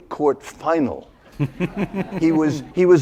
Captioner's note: laughter